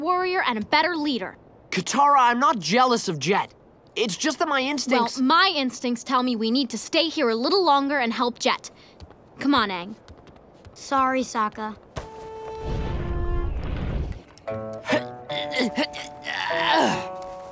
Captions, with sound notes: and a better leader. Katara, I'm not jealous of Jet. It's just that my instincts-- Well my instincts tell me we need to stay here a little longer and help Jet. Come on Aang! Sorry Sokka. [grunting]